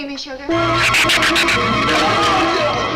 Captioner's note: dramatic orchestral music; shrew screeches; Marlowe screams